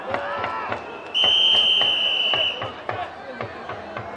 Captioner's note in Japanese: ホイッスル